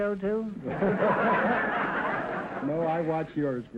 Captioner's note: audience laughter